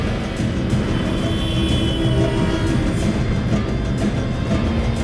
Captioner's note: horns honking